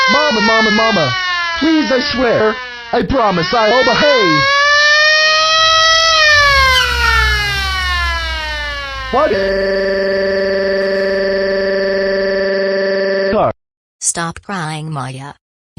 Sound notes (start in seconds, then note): 5.1 tires screeching; 9.2 crying